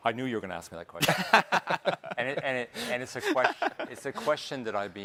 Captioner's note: hosts laughing